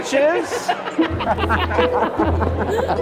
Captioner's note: laughing